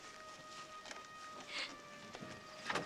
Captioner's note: crying